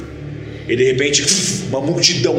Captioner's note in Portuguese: vush